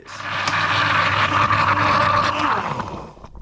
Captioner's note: blender swirls